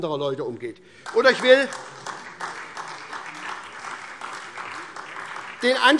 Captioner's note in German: Beifall SPD